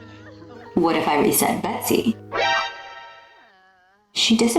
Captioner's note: metal gear ! sfx